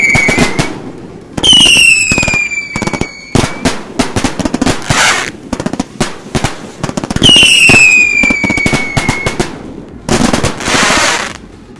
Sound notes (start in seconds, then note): 0.1 fireworks popping; 1.3 fireworks whistling; 3.8 fireworks popping; 6.8 fireworks whistling; 9.7 fireworks sizzling